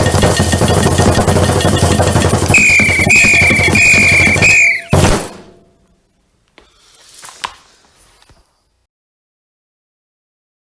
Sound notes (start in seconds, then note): 2.5 four whistling sounds